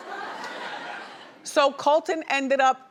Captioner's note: audience laughing